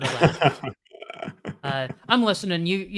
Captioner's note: chuckles